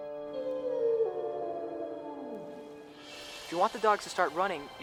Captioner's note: wolf howling